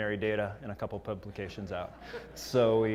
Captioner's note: laugh